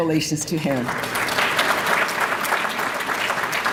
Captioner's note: applause